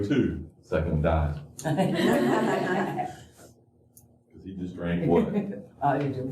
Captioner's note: laughter